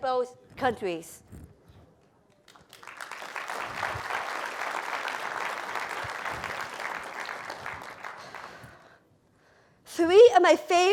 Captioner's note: applause